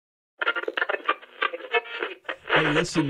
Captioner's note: radio warbling